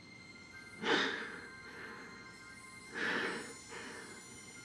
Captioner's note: breathing heavily